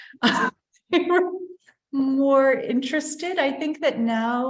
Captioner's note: laughter